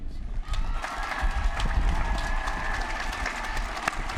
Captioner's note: applause